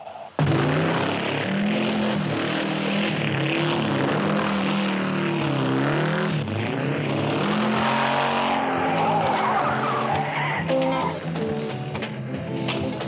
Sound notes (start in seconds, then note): 0.3 engine revving; 8.9 tires screeching; 10.6 laid back funk music